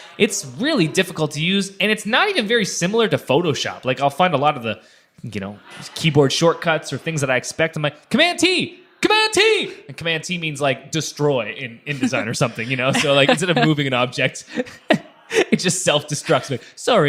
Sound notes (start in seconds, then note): 11.9 laughing